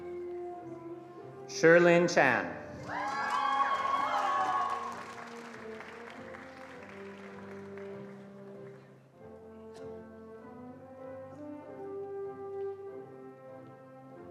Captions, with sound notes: Sherlene Chan. (attendees cheering and applauding)